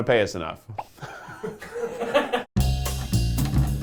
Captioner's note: laughing